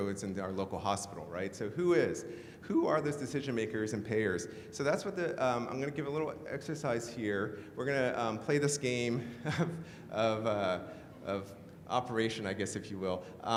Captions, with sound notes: about what goes into our local hospital, right? So who is? Who are those decision makers and payers? I'm going to give a little exercise here, we're gonna play this game (laughs) of Operation, I guess, if you will.